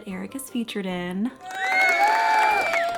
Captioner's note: cheering